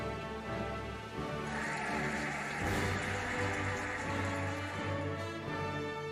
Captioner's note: cheering and applauding